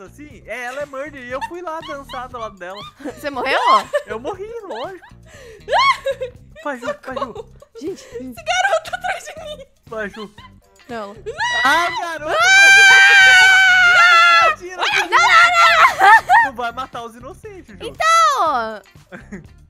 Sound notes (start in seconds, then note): 1.3 laughing on the background; 5.4 rindo nervosa; 5.4 laughing; 9.9 nervous laughter; 11.2 screaming; 11.3 laughing; 12.2 screaming; 16.0 nervous laughter; 19.1 laughing